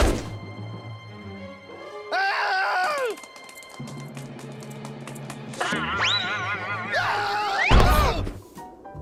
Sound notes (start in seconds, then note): 2.0 yells; 7.2 screams, groans